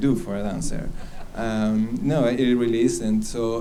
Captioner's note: laughs